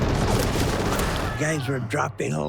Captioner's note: gunfire